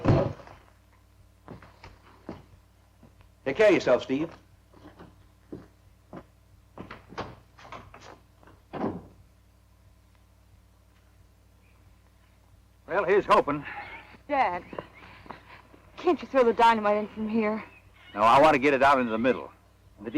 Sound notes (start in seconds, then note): 8.6 door closes